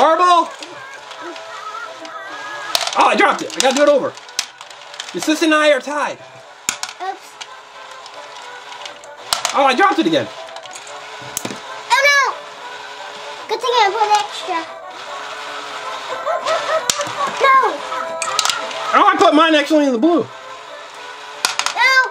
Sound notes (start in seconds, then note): 1.3 animated music; 1.3 caterpillar laughs; 16.0 caterpillar laughs